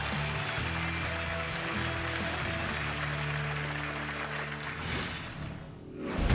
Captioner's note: crowd applause